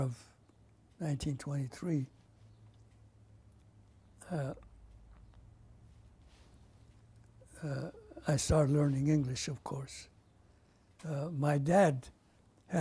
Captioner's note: pauses for 7 seconds